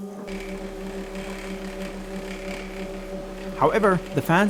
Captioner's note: fans whirring